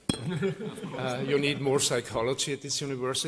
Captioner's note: laughter